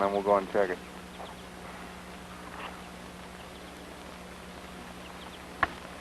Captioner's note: static and bird song